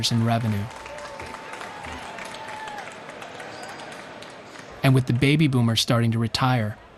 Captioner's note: cheering